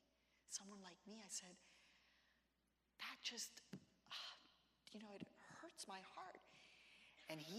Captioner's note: gasps